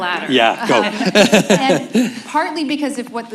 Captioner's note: laughs